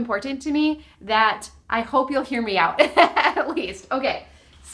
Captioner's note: laughs